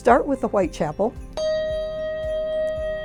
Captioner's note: handbell dinging